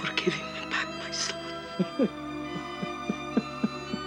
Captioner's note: sobs; lento east european music